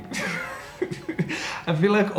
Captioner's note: laughing